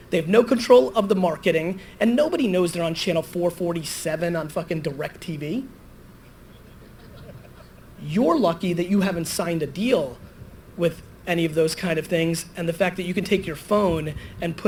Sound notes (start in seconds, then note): 6.6 audience laughter